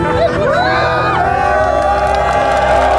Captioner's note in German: Jubel, Applaus